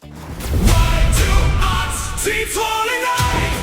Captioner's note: logo's Explosion; rock Music